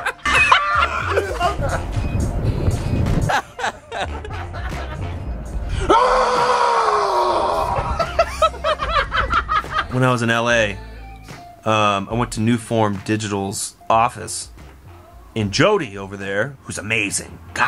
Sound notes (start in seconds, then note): 5.4 yelling; 7.7 laughter